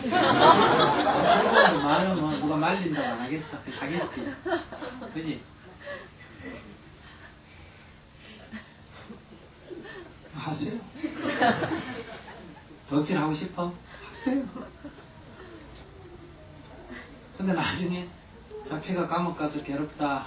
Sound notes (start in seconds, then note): 0.0 audience laughter; 6.4 audience laughter